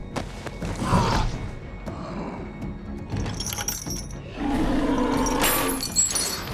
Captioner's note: The Patriarch snarling; chains rattling